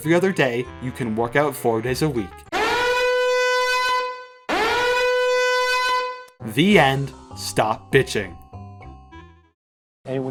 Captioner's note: blaring alarm